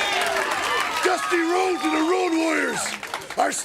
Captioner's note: crowd cheering